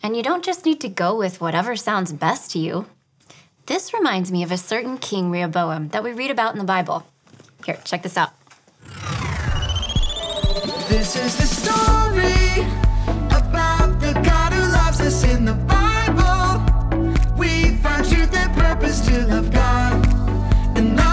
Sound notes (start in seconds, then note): 8.8 scene whooshes; 8.9 scene beeps